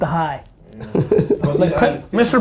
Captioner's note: laughing